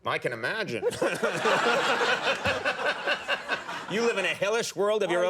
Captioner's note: laughing